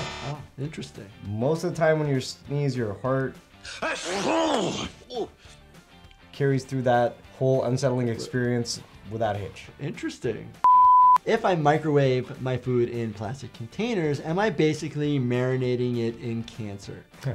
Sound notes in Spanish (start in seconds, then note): 3.7 estornuda; 10.6 pitidos de transmisión